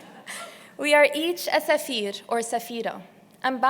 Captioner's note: non-english